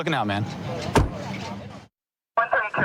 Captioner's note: car door closing